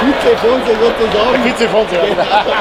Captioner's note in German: lacht